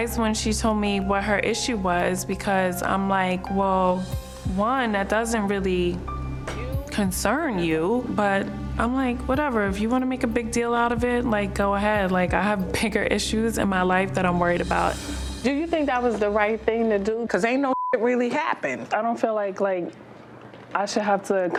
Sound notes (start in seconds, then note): 17.6 beep